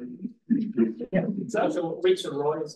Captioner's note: audience chuckles